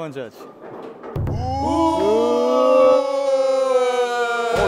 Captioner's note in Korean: 우레와 같은 함성